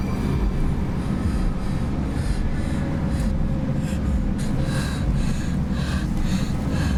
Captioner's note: ominosa de la música; respira fuertemente